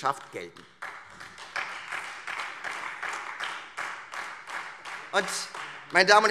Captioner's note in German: Beifall Freie Demokraten